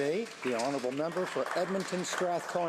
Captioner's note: applause